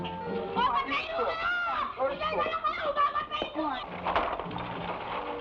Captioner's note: boy shouting in Tagalog; machine clattering